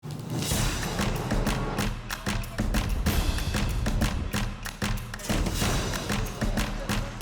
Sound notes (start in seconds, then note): 0.0 flames whoosh; 0.4 upbeat music; 3.2 cymbal clangs; 4.4 upbeat music